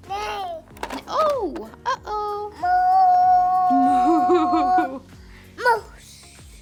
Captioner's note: boy vocalizes including moo-ing sounds